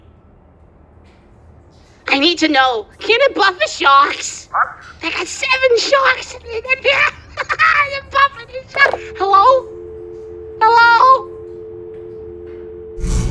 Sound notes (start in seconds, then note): 8.9 phone click